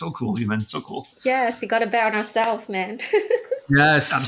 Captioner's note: giggling